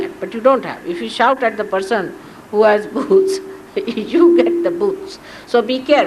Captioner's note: Shri Mataji laughs